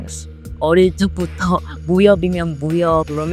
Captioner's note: Korean